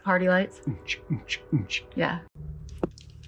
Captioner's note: imitates a drum beat